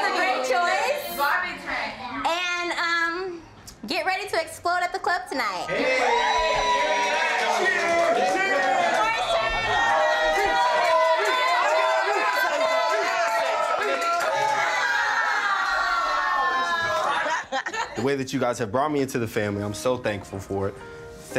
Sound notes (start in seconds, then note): 11.6 group cheering; 17.0 laughing; 18.6 calm music